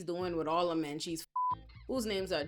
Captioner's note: beep